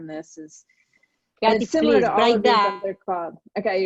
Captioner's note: internet warble